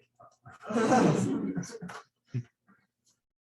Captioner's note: laughter